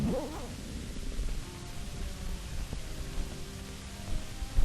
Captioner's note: backpack unzips